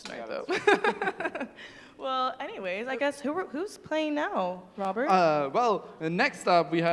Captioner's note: laughs